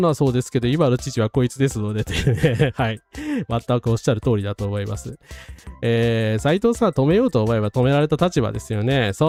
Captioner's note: laughs